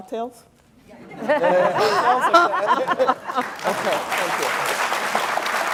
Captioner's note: laugh; applause